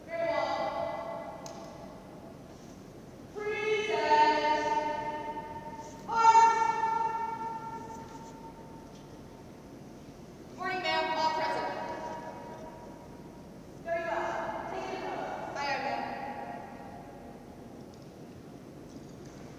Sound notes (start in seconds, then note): 14.8 speaking faintly